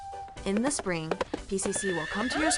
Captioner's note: horse galloping; horse whinny